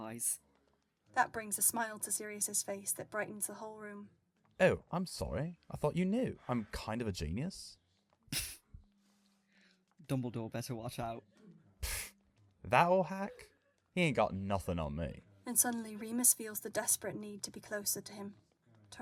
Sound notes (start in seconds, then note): 8.3 Remus snorts